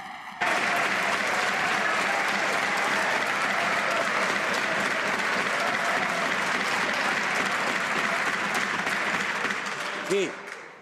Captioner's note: some Applause